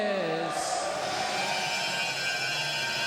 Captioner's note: crowd cheering